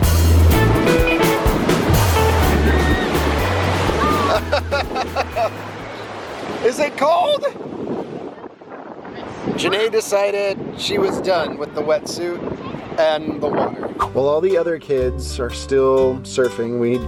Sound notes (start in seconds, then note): 4.0 laughs